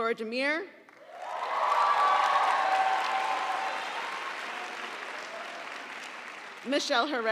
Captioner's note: audience applauding; audience cheering